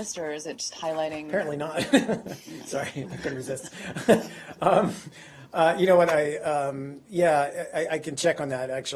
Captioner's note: laughter